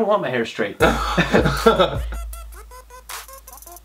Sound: laughing

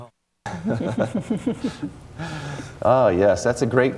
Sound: laughter

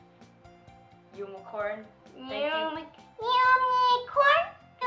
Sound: none

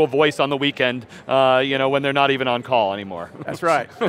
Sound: laughing

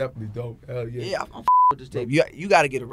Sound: beep

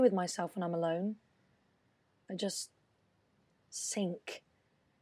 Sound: none

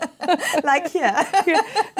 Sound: laughs

